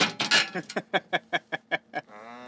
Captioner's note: laughing